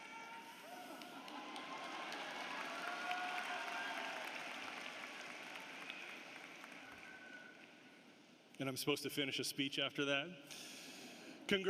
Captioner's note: applause